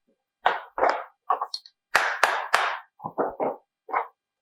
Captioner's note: hammer pounds